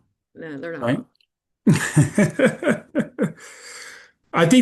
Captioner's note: chuckling